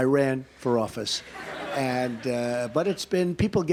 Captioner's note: laughter